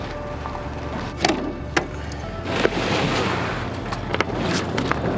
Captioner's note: door latch clatters